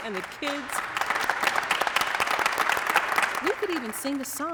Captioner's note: orchestra applauds